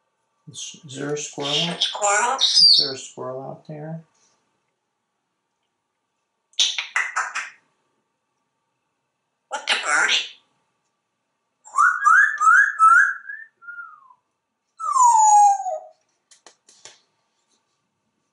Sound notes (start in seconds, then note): 6.6 squirrel clicking sound; 11.7 bird tweet sounds; 14.7 whistle